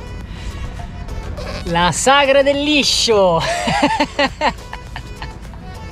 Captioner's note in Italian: Risate